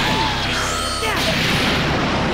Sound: vegeta jr. jr., noooooooooooo!

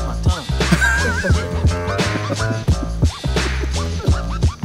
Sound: crew laughing

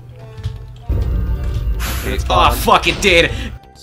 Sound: wither spawns, explosions

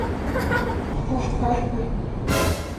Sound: laughing at the plot twist

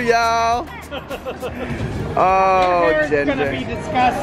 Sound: laughing

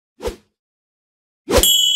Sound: swish

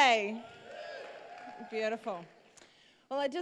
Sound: cheers

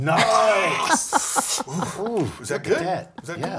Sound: laugh

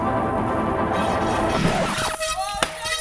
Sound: mellow synth music; horn honking loudly

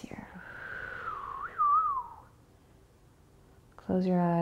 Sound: whistles softly

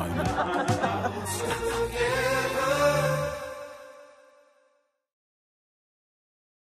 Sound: people laughing

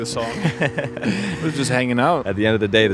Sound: both laughing

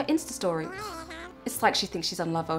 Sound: jabbering

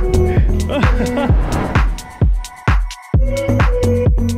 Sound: laughs

